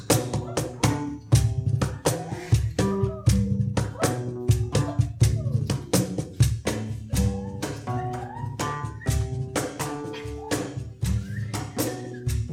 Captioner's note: whistling and vocalization of bird sounds over music